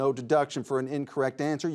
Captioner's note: none